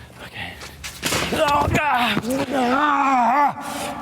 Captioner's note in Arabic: صرخات